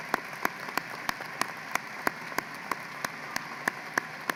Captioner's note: applause